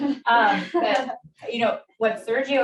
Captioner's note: audience laughs